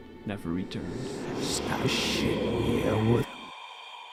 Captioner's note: ghostly echoes